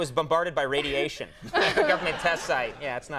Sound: audience and Molly laugh

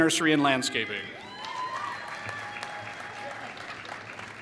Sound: applause

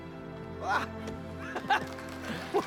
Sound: laugh

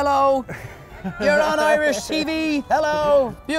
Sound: crowd

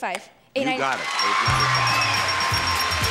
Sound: bell dinging; audience cheering

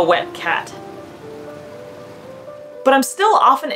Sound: quiet rainfall sound; background music

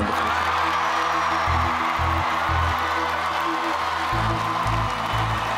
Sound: audience cheers and applauds

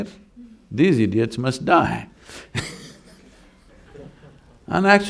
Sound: laughs

